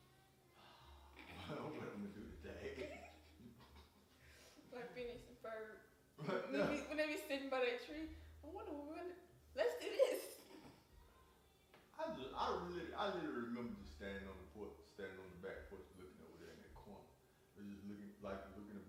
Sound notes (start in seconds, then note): 2.5 laughing; 6.3 laughing